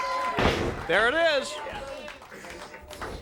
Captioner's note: crowd chatter